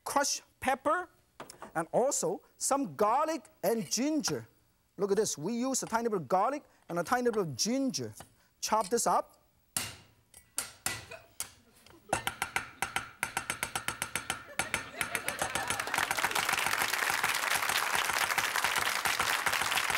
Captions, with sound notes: and also some garlic and ginger. Look at this, we use a tiny bit of garlic, and a tiny bit of ginger. Chop this up. (chopping) (audience laughs) (audience claps)